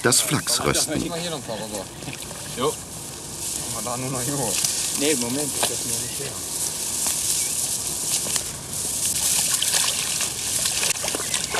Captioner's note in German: Arbeitsgeräusche und -gespräch